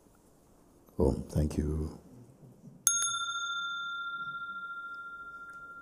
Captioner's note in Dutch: rinkelt bel